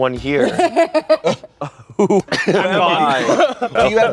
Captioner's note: laughs